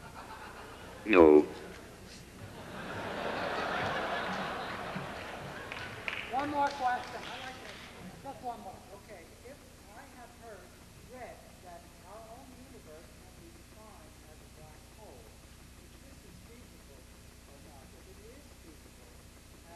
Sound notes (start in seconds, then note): 0.0 audience laughs; 2.4 audience laughs